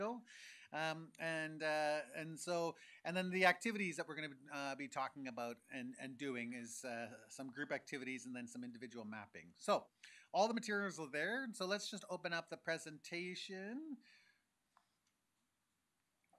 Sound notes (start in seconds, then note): none